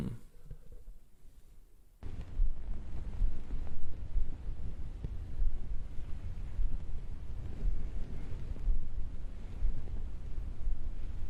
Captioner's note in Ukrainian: шуми: дихання, шелест, серцебиття